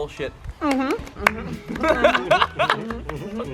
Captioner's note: enthusiastic mhm and claps; laugh